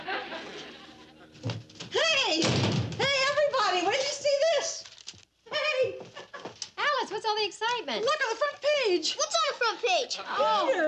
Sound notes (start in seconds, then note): 0.0 audience laughs; 2.2 door slams; 6.0 chuckles